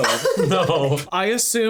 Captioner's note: laughs